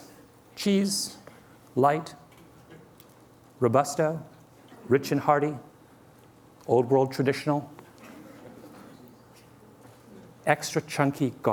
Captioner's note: laughter